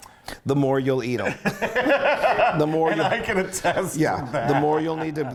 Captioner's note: laugh